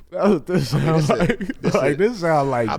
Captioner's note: laughing